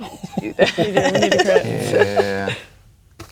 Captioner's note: laughing